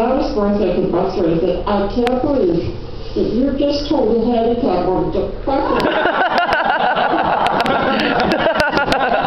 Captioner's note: laughter